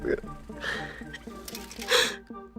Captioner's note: sobbing